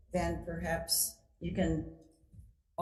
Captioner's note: none